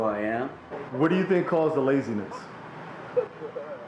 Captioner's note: voiceover